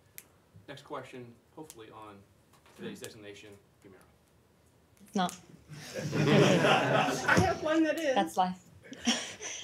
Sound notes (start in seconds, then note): 5.8 laughter